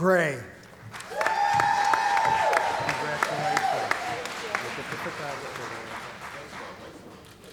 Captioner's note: cheering & Applause